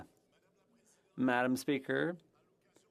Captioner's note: speaking French